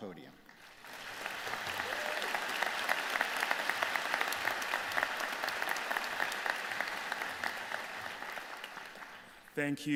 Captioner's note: applause